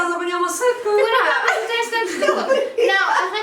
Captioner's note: laughs